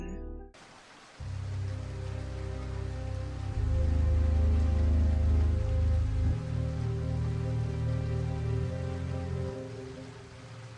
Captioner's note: rain